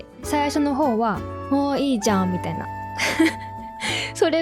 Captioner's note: laughs